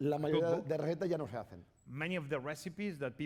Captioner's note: speaking spanish